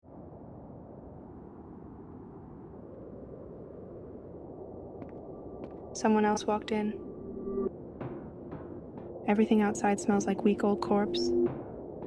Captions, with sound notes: (footsteps) Someone else walked in. (eerie ambient music) Everything outside smells like week-old corpse.